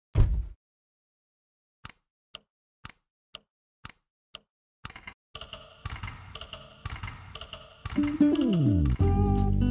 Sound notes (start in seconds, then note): 0.1 thump; 1.7 clock ticking; 5.3 clock ticking echoing